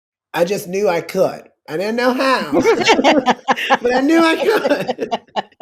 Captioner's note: laughter